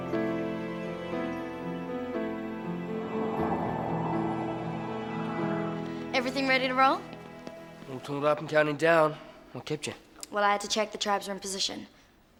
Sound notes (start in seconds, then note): 2.2 wind blowing